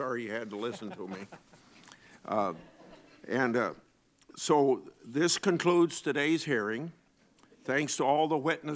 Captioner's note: laughter